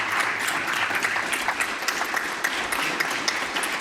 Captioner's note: applause